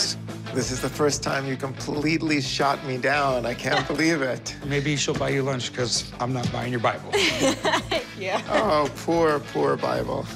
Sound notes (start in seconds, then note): 7.2 laughs